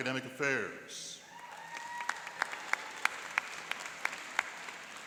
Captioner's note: cheering and applauding